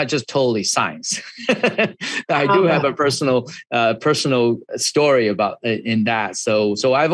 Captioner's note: laughs